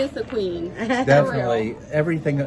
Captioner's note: laughing